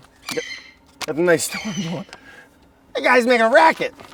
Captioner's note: bird squawks